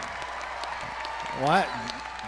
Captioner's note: crowd applauding